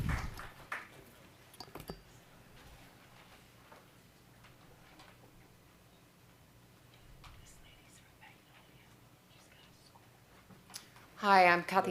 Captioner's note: applause